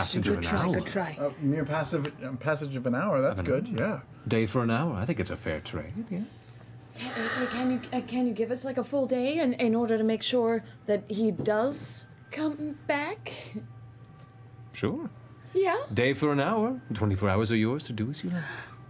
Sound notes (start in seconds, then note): none